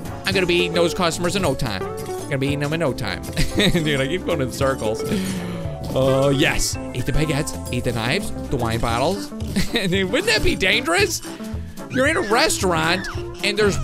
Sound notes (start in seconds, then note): 3.3 laughs